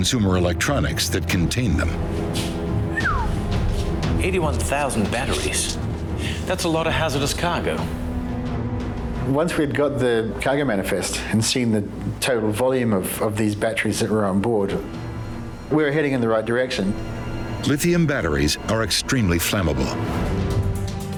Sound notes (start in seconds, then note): 2.9 whistles